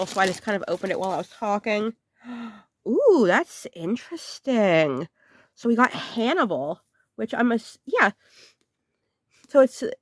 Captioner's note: gasp